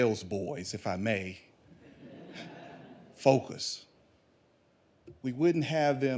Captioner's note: audience laughing